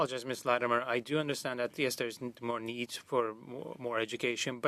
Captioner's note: speaking French